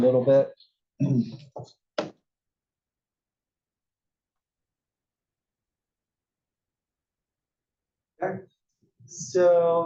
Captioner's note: cough